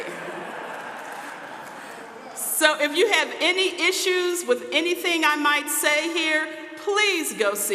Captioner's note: audience laughing